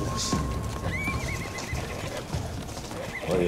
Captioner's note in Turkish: At kişneme sesi